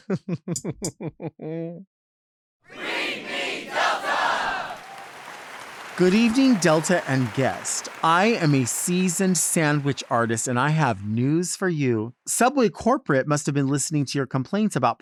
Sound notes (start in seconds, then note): 0.0 chuckles; 5.0 audience applauds